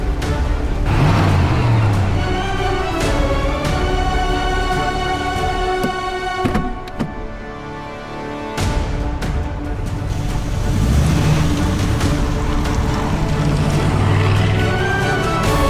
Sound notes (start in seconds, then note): 0.1 engine revs; 5.9 suspenseful music plays